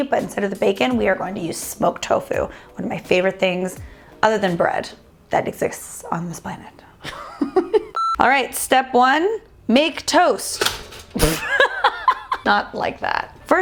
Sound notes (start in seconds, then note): 7.0 laughing; 7.9 beeping; 11.2 laughing